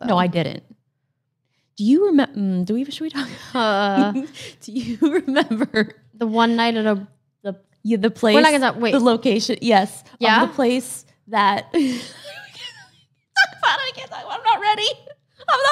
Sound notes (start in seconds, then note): 4.0 laughs; 5.7 laughs; 12.9 laughs; 15.2 laughs